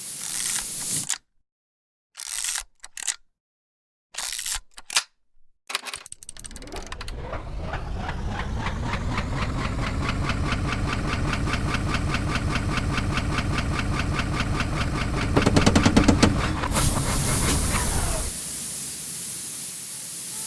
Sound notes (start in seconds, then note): 6.2 machine chugs to life; 6.4 machine whirring; 15.0 machine creaks; 15.3 machine winds down, releasing steam